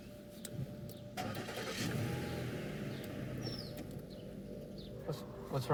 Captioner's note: car engine starting